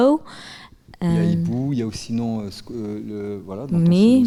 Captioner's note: speaking in French